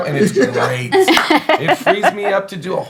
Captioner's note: laughing